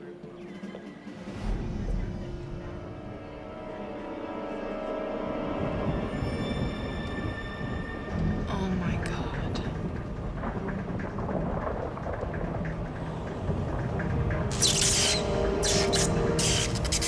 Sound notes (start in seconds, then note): 9.9 thunder rumbles; 14.2 lightning crashes